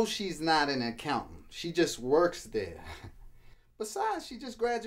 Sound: chuckles

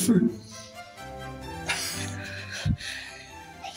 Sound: giggle

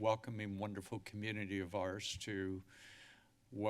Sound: inhales

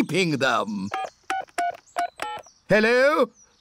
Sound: dialing phone

